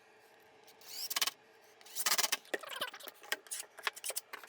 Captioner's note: drill whirring; tape fast forwarding